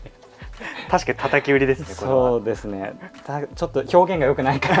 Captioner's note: laughs